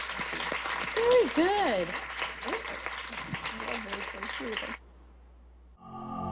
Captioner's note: applause